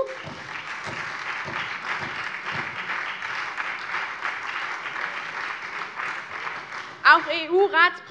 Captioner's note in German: Beifall SPD